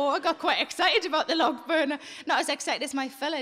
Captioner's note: none